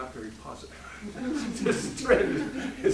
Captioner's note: laughing